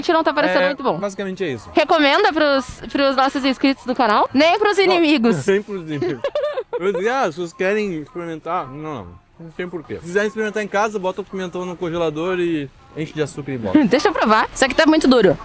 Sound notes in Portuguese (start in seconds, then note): 5.9 risadas